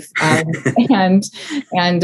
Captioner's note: laughing